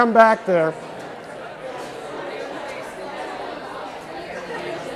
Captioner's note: chatter